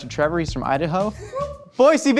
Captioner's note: whooping